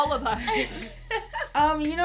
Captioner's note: laughter